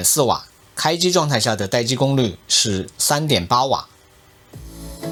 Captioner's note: static